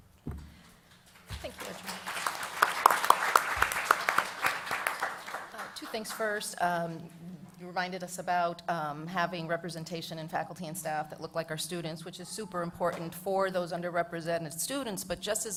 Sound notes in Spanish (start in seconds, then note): 1.3 Aplausos